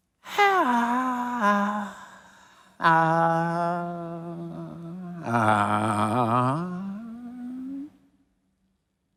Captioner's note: sighing